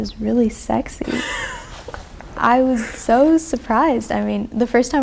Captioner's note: laughs